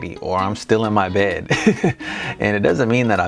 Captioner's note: chuckles